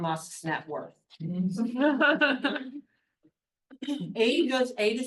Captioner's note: attendees laughs